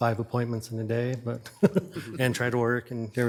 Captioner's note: chuckling